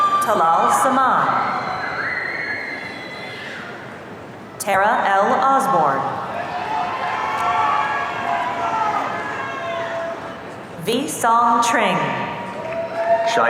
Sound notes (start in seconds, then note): 0.0 audience cheering; 6.2 audience cheering